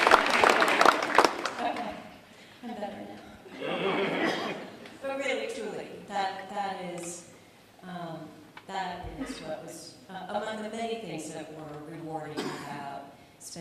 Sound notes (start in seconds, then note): 2.6 laughter